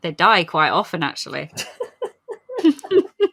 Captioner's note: laugh